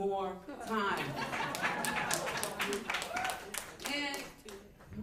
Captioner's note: laughter; applause